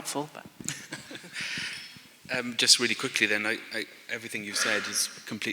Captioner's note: laughter